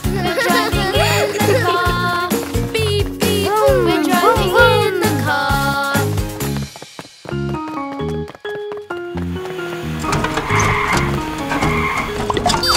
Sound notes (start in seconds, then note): 6.4 lighthearted music; 6.4 tires squealing